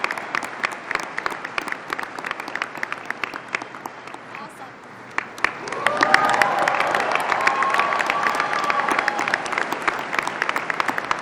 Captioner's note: applause